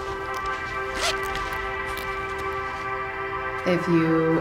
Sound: zipping

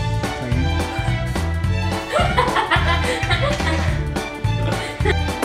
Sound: laughing

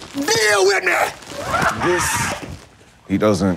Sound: chuckles

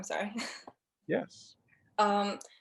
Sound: laughter

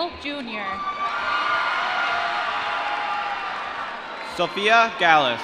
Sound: applause

